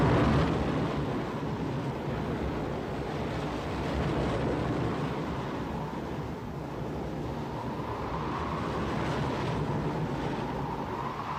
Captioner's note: wind blows hard